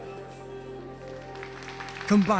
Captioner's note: audience applauding